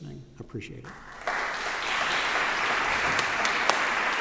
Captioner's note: audience applause